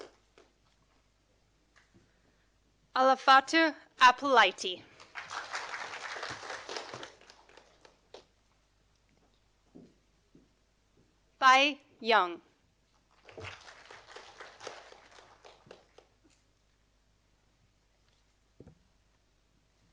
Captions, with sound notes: Alafate Abulaiti. (audience applauding) Bai Yang. (audience applauding)